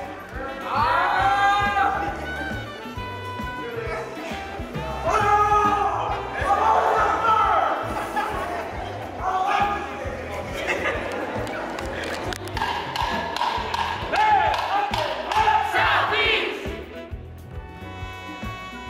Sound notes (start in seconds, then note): 5.1 vocalizes; 10.4 laughter